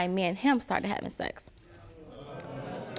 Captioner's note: audience murmurs